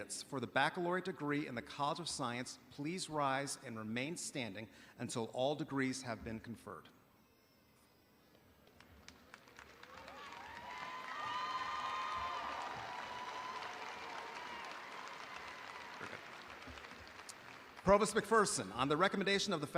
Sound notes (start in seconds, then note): 7.9 audience applauding